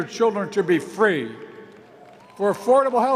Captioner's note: applause